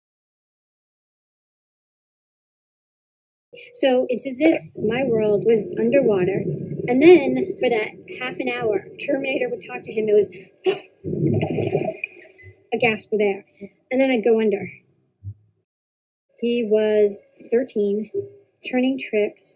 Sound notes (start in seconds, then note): 8.5 under water sounds; 13.5 A gasp